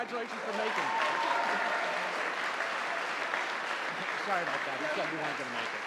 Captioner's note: audience applauding